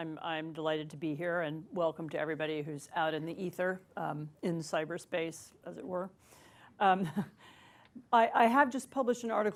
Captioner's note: laughs